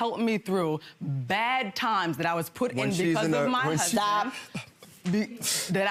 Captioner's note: none